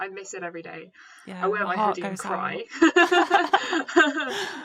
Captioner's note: laughter